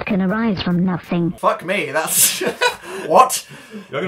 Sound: laughs

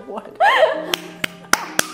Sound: laughs

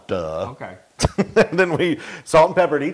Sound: laugh

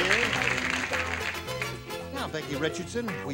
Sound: applause

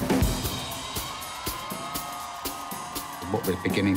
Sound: crowd whoops, jeers

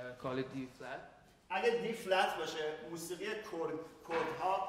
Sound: speaking in farsi

